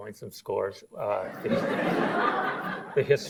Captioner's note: audience laughs